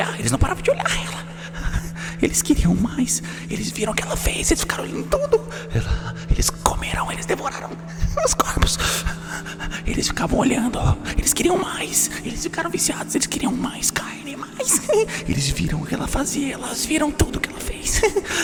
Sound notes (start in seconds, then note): 1.8 laugh; 7.6 giggles; 14.6 giggles; 17.8 giggles